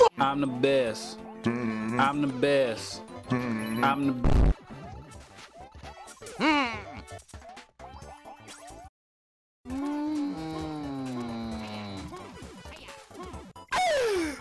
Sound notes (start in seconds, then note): 4.2 Vine_boom.com